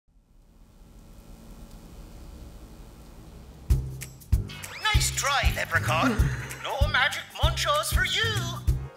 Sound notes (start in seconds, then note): 0.2 electric signs buzz softly; 3.7 jaunty upbeat music